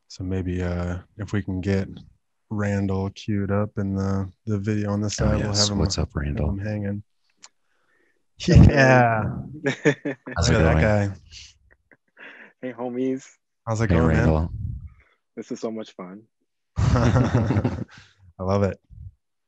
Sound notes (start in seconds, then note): 9.6 laughs; 16.8 laughing